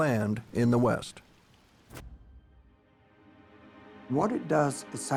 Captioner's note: pages rustle